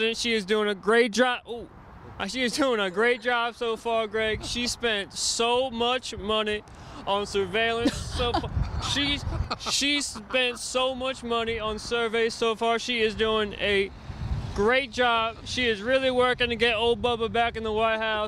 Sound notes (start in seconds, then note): 7.8 laughing